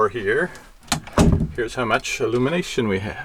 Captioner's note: door slams